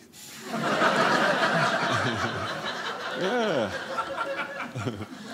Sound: audience laughing

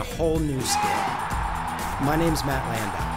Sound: crowd cheering

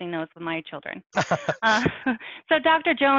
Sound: laughs

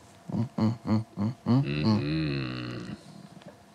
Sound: grunting

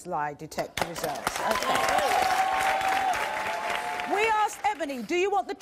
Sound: audience cheers and applause

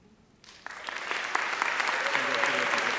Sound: audience applauding

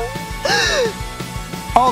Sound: gasping

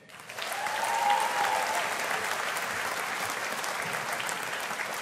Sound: audience applauding

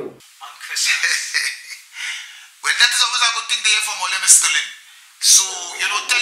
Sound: laugh

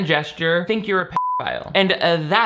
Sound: beep

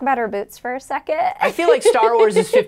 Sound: laughing

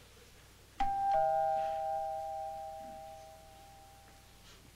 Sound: doorbell rings

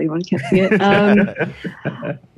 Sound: both men laughing

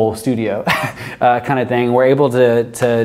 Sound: chuckles

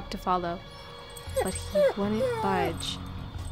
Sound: dog whimpering

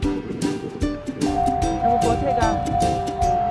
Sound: sound of train coming

